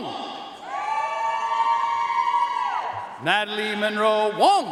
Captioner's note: audience cheering and applauding